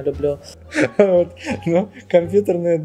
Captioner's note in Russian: смеется